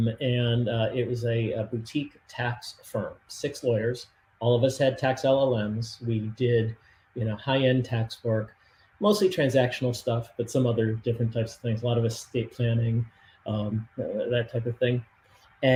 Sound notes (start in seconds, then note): none